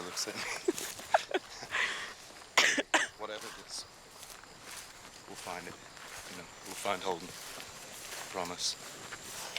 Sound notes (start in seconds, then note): 0.1 laughing; 2.5 coughing